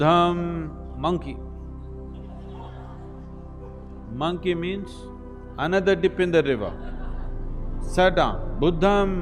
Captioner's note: laughter